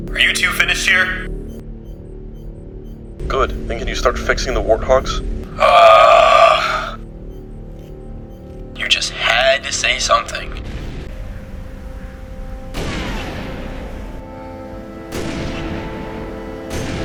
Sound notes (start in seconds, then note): 5.5 groan in disappointment